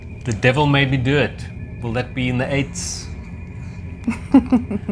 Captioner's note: laughs